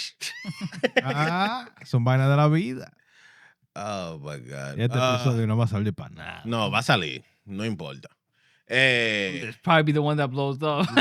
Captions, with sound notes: (Non-english Speech) Oh, my god. (Non-english Speech) No, Vasali. No impolita. Hey. Probably be the one that blows, though.